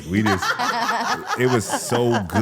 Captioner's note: Stephanie and participant chuckling